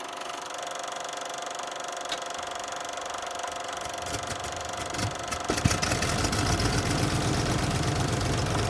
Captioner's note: old projector sound